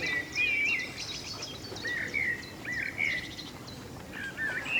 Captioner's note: birdsong